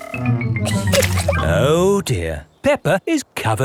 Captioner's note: chuckles